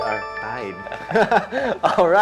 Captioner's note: laughs